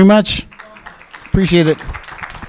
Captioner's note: applause